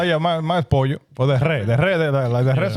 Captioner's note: speaking In Foreign Language